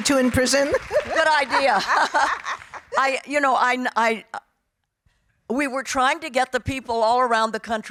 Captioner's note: laughing